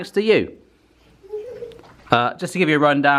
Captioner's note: giggles